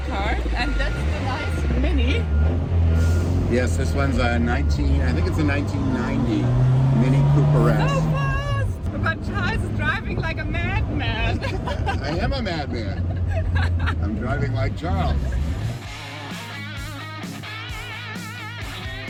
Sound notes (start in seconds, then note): 11.0 laughs; 15.7 upbeat music